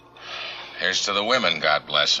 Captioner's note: David sighs